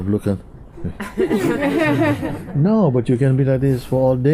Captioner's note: laughter